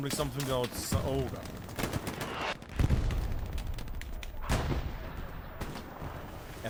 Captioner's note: gunfire